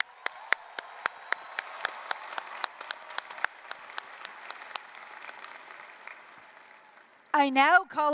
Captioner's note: applause